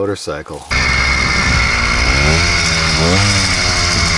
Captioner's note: engine revving